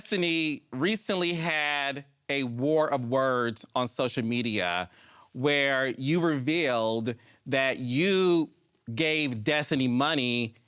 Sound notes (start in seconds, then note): none